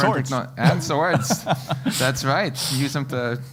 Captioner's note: laugh